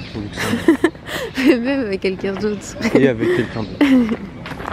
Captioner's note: laughs